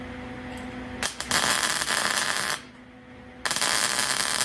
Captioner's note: buzzing